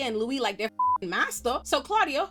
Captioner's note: beep